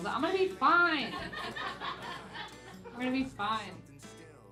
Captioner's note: laughing